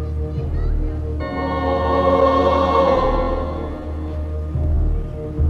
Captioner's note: children laughing, shouting in distance